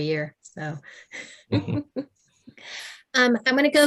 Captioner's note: chuckles